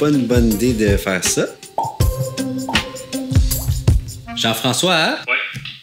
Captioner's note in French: bruits de bouche